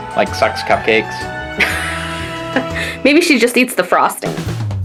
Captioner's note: laughs